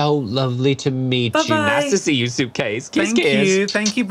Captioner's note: smooch